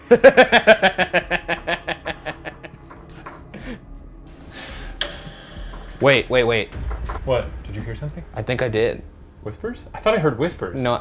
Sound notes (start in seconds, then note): 0.0 laughing; 1.3 balls jingling